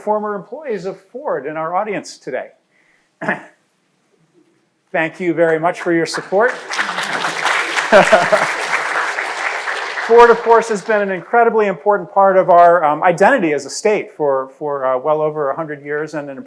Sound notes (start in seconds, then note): 5.5 crowd applauding; 6.5 laughs